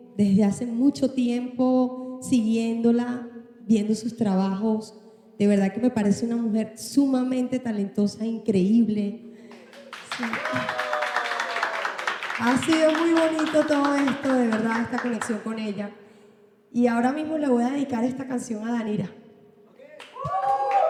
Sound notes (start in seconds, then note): 9.4 clapping; 9.6 cheering; 19.8 cheering; 19.9 clapping